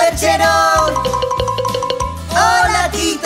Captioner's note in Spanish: Sonido de campana